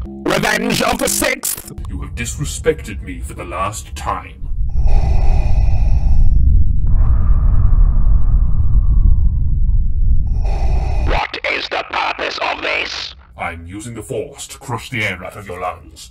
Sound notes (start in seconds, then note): 4.9 ominous rumbling oh boy; 8.5 ominous rumbling oh bad wolf; 9.2 ominous rumbling oh boy